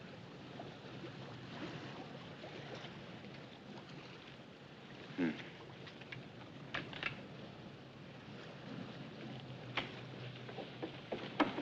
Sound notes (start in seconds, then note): none